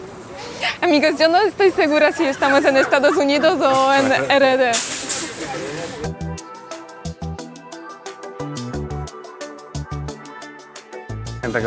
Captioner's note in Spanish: risas